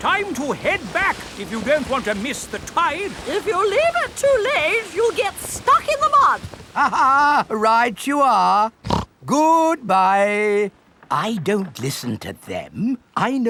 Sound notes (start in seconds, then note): 6.7 laughs; 8.8 snorts